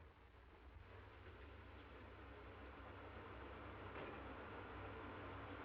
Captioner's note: engine humming